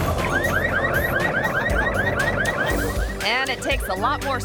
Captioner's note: couch thumps; car alarm blares